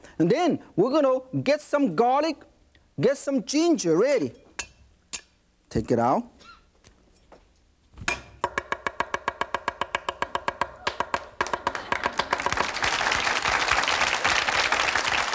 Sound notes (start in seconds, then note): 8.4 chopping; 10.8 audience clapping